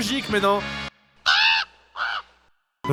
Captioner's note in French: cri de corbeau